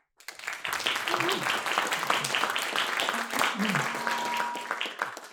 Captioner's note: audience applauds